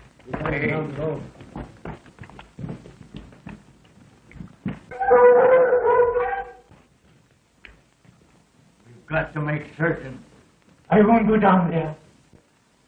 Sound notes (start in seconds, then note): 4.9 dogs barking